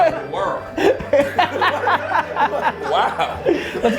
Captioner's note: group laughter